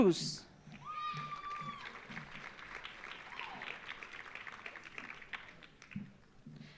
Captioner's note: audience cheering; audience applauding